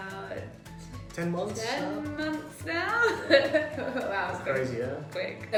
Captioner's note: laughs